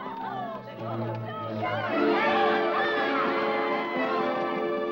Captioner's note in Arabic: موسيقى درامية; صراخ وضوضاء; أصوات عربات الخيل; موسيقى درامية